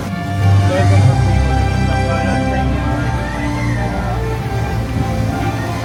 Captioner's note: dramatic music; water splashing